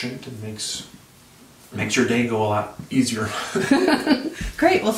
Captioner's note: laughs